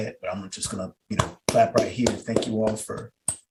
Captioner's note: clapping